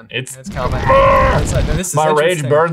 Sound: groaning

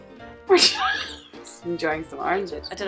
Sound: laughs

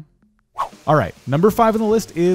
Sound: air whooshes

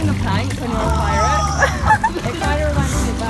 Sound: groaning

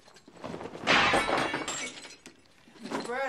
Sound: crash

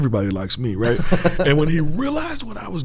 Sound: chuckles

